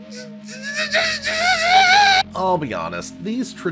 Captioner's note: stifled seething